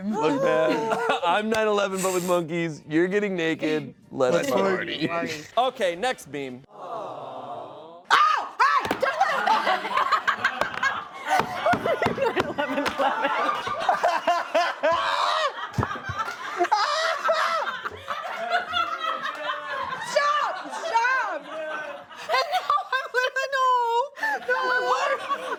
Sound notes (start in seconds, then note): 9.1 prolonged laughter